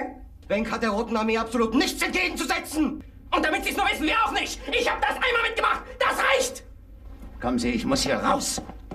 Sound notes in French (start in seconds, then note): 3.3 beuglant en bon français; 7.1 parlant dans un anglais simple